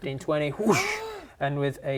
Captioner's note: gasp